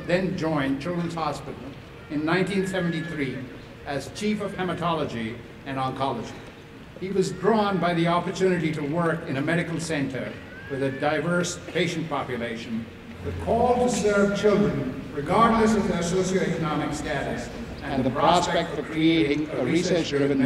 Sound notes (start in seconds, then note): none